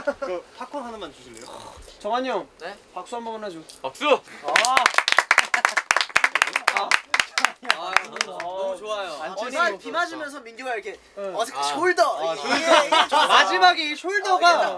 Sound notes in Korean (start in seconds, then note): 4.4 짝짝짝짝짝